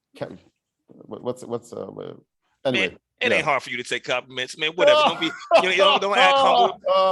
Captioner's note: laughs